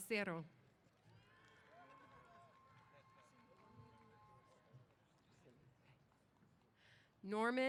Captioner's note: applause & Cheers